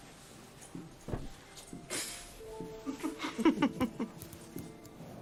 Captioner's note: laughing